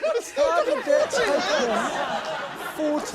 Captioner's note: laughter